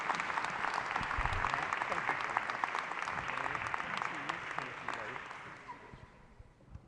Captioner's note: applause